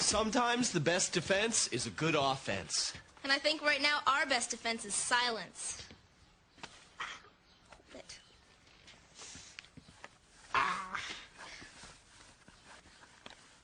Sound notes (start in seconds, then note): 6.0 exclaims